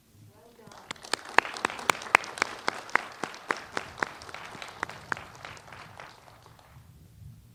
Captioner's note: applause